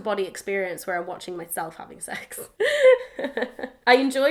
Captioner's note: laughs